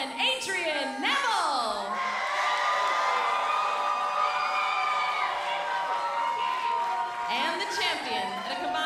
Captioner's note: crowd cheering